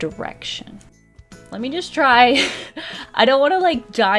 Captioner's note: laughs